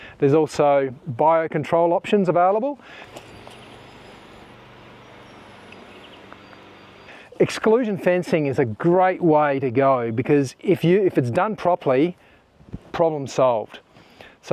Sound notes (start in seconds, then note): 3.0 birds singing; 3.0 machinery faintly whirring